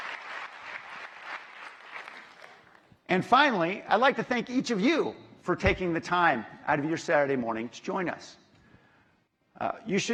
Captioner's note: applause